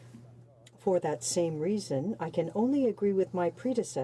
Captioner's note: speaking French